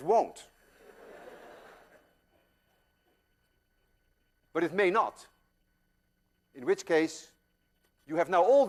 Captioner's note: class laughs